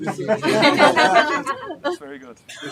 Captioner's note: laughter